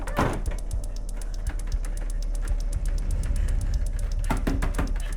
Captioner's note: door handle rattling; door slams shut; pounding on door